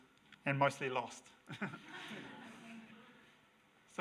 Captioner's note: audience laughs